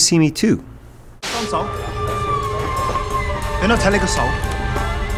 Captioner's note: foreign language; intense music